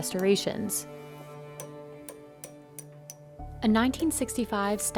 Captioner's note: hammering